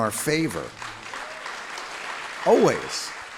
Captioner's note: audience applauding